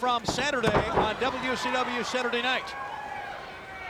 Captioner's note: body thudding